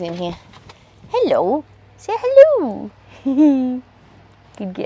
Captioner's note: giggles